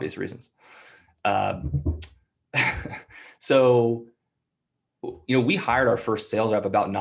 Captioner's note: laughter